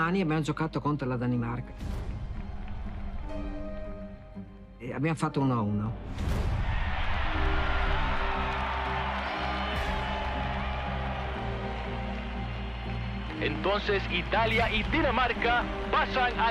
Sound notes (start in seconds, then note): 2.3 applause; 6.0 crowd cheers; 7.5 stirring music